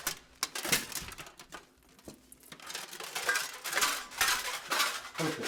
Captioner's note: armor continues clanking